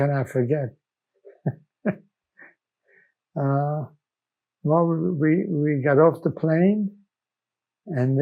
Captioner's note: laughing